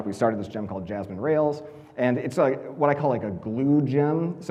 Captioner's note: none